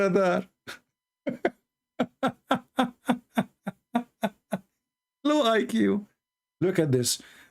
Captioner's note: Ketawa